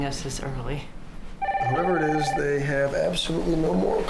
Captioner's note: phone ringing